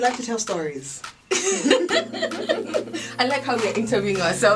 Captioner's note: laughter